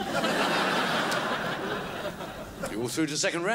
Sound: crowd laughs

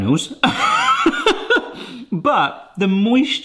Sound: laughing

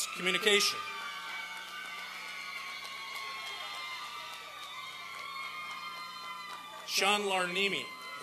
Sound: applause and cheering

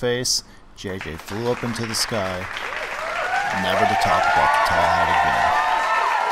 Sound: cheering and applauding

